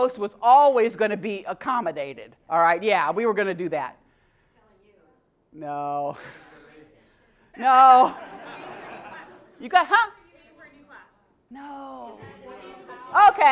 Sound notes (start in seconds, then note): 7.9 laugh